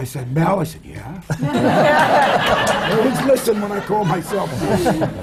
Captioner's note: laughter